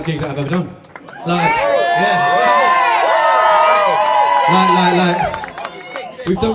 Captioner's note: cheers